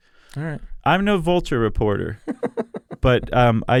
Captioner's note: laughs